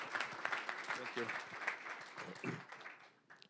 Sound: applause

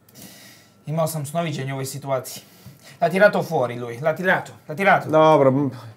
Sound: don Bosco speaking italian

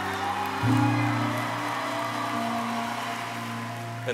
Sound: audience cheering

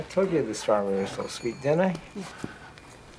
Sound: none

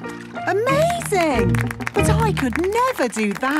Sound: clapping

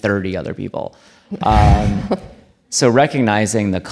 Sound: audience laughing

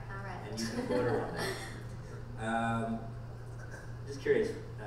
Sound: laughs

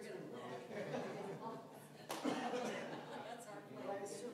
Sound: laughter

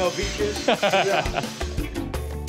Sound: laughing

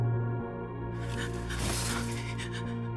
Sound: breathing shakily

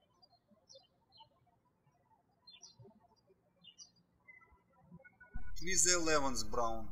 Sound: birds chirping

